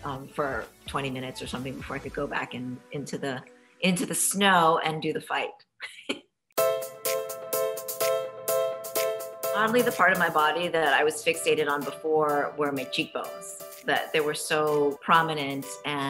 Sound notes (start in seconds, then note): 5.9 laughs; 6.6 upbeat music